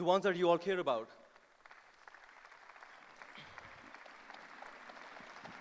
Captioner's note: applause